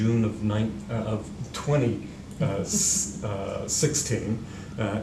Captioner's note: chuckling